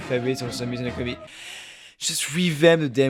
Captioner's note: gasp